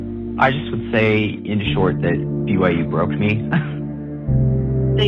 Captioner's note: laugh